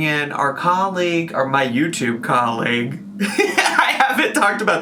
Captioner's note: laughs